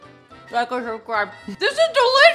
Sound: mumbles with food in mouth

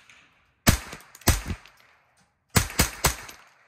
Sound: gun bangs

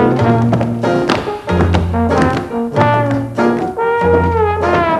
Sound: heavy footsteps

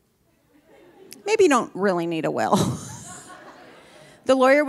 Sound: laughs

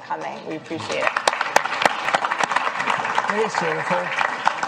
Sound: applause

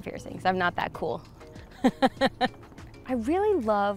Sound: laughs

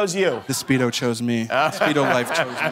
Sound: laughs

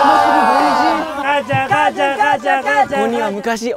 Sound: shouts thrilled for fresh air

